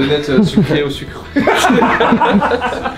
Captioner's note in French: rires